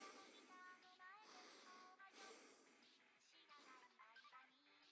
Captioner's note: intense nasal breathing